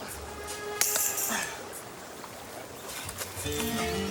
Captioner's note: wire clipping